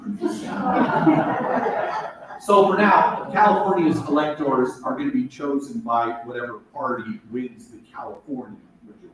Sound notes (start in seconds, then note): 0.2 laughter